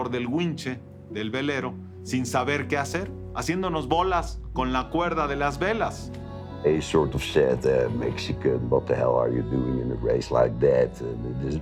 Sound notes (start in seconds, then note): 4.8 in English